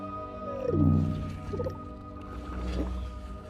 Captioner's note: alien chittering